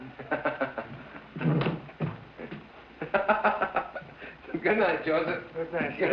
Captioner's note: laughing